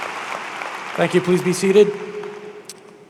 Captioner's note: cheers and applause